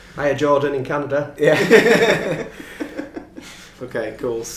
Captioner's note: laughing